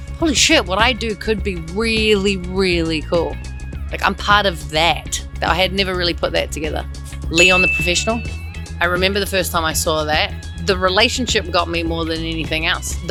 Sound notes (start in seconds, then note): 4.8 jazzy music continues; 7.3 bell dings